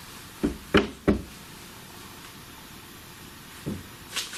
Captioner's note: knocking